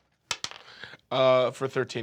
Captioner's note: rolls dice